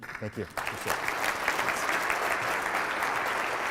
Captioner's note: audience clapping